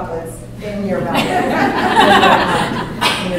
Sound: laughter

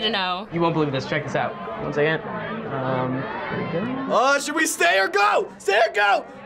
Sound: panics

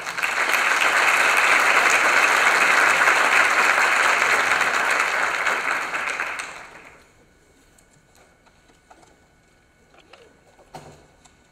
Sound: applause

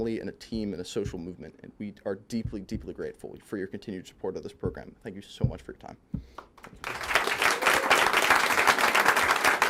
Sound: applause

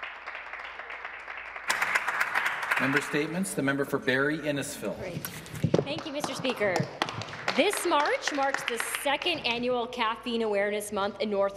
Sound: some Applause

